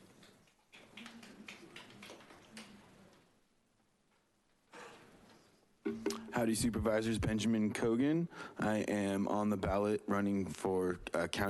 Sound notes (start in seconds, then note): 0.8 attendees applauding